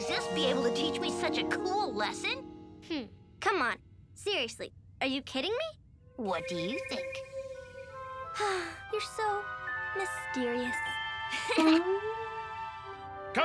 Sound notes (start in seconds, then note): 8.4 Lizbeth sighs; 11.3 Milo chuckles